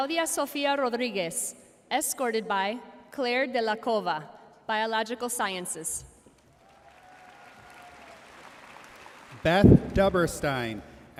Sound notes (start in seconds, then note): 6.4 audience cheering and applauding